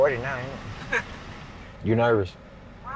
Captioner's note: chuckles